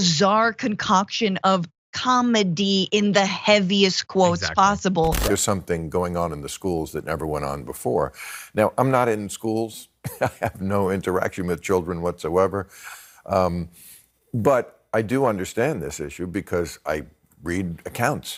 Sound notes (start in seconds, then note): 10.0 laugh